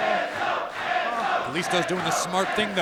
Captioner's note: fans chanting